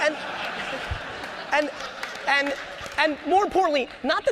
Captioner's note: audience laughter